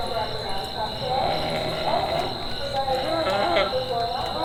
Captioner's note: Moth groaning